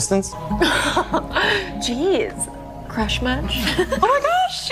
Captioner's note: laughs